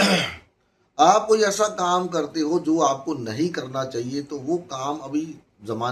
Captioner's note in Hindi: गला साफ़ करने की आवाज़